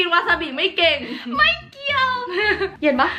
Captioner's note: laughing